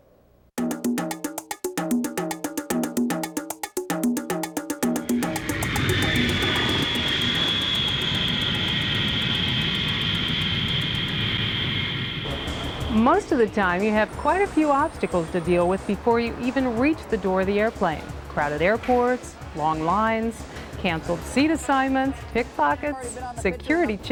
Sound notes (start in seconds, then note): 2.2 upbeat music; 6.8 jet engine roaring